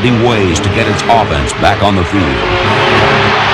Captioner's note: crowd cheering